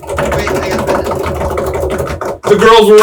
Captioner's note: slapping table